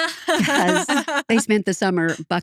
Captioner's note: laughing